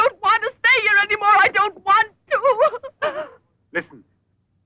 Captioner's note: sobbing